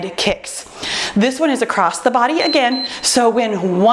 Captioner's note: timer beeps